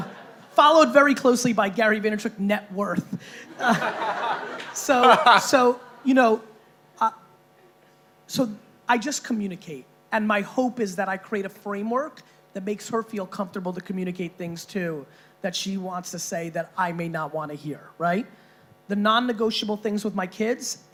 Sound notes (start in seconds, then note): 3.5 laughing